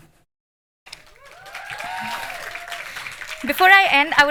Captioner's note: applause and cheering